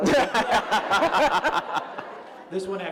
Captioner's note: laughter